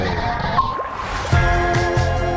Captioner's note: sonar ping